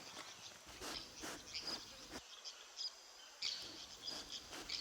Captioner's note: tapir sniffing